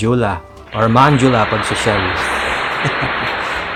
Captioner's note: laughs